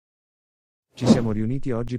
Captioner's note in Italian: FX - Whoosh - 03